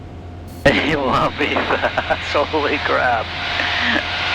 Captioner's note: laughing